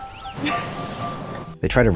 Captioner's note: laughes with loud background noise swelling in